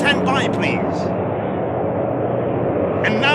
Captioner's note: plane noises